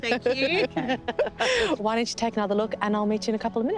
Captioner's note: laughter